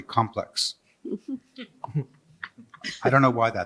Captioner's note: chuckling